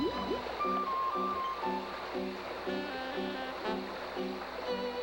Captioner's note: bubbling and splashing